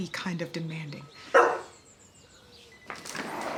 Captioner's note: Nala barks